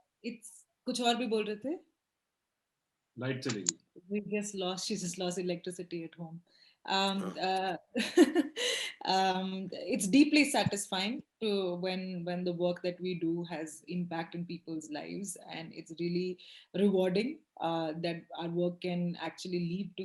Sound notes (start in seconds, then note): 0.3 speaks foreign language; 7.1 laughs